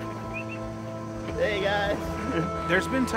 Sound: whistles

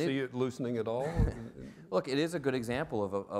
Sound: laughs

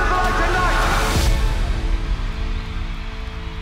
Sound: cheering

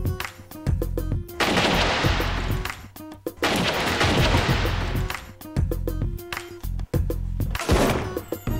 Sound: gunshots

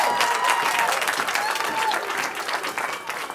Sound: cheering

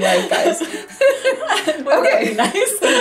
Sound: laughs

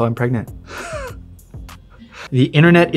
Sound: chuckles

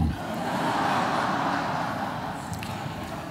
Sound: laughter

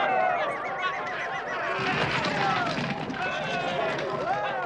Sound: people yelling

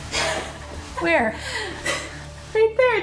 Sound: laughing

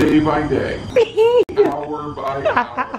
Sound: laughing

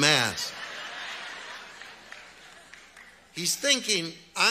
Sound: audience laughs

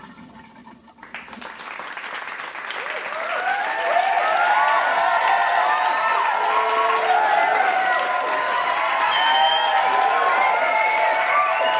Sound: clapping and cheering

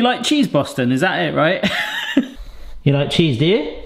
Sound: laughs

